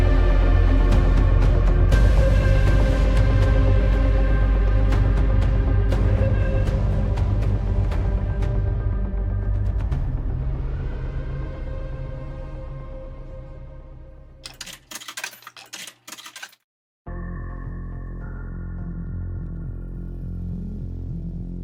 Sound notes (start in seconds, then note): 14.4 coins clanging; 17.1 suspenseful atmospheric music